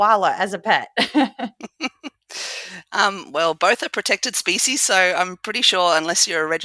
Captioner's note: laugh